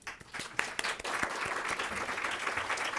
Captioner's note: applause